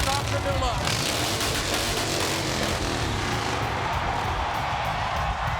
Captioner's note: motorcycle revving; audience cheering